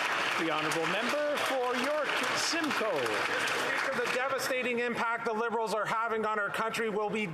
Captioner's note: applause